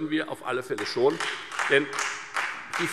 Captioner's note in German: Beifall Freie Demokraten